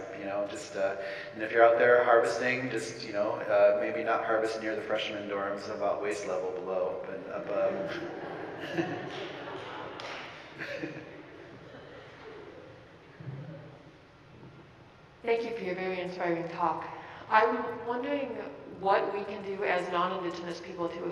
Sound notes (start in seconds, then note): 7.5 audience laughing